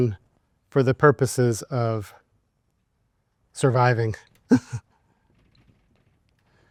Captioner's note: laughs